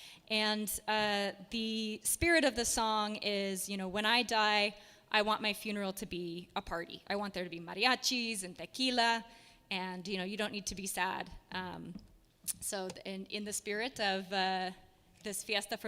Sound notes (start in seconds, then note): none